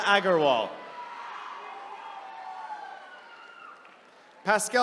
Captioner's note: attendees cheering